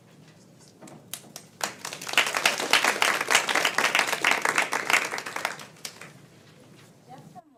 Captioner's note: applause